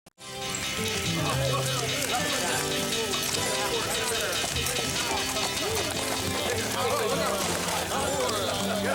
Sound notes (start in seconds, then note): 0.2 lively music; 0.3 people chattering